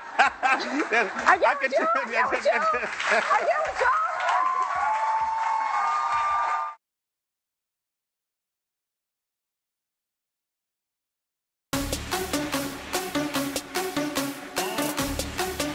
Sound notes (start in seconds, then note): 0.1 laughs; 4.3 cheering